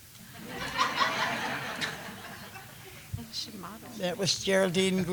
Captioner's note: laughter